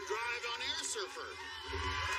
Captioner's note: cheers and applause